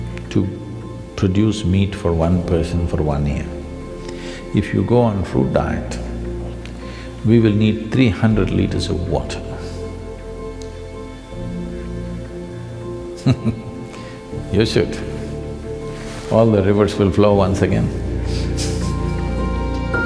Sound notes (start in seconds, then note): 13.2 laughs; 19.0 laughs